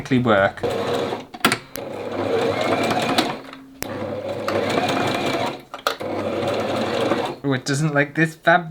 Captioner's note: odd Sewing Machine Sounds